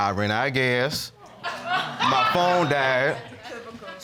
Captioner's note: audience laughs